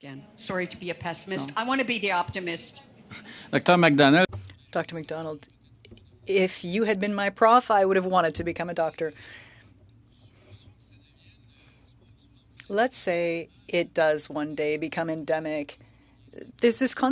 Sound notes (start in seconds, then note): 13.4 speaking French